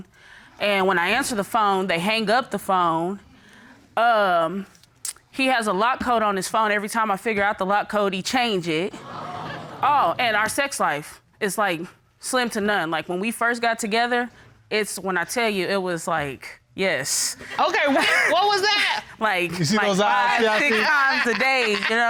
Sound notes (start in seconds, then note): 8.6 audience gasping; 17.1 chuckles